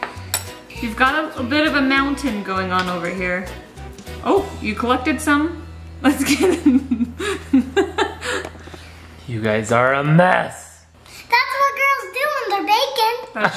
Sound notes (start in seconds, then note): 8.1 laughing